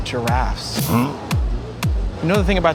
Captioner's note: grunts